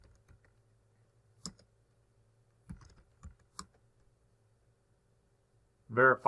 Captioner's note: typing